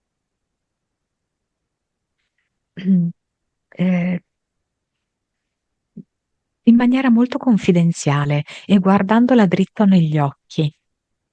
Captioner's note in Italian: schiarire la voce